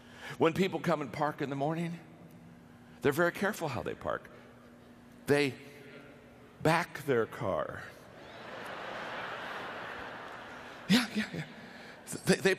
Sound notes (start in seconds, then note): 8.2 audience laughter